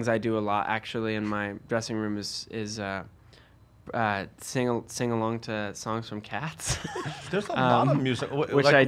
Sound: laughs

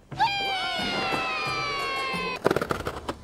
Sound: shouting

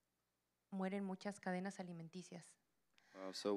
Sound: Spanish language

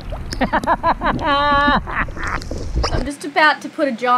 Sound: chortles

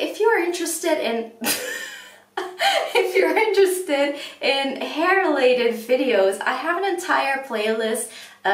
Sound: laughs

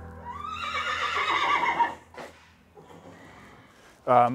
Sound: horse neighing

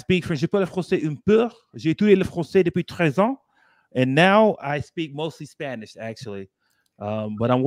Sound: speaking french

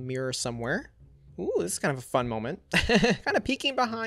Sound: laughs

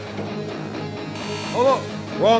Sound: foreshadowing glitch sounds

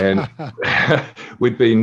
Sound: laughing

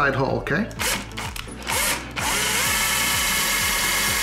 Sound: drill buzzing

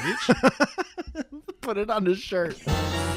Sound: laughs

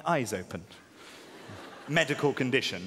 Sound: audience laughing

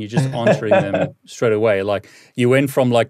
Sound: laughing

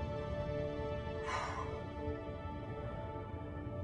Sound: exhale

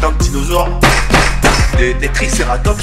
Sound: tap tap tap

